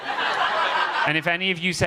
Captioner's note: audience laughing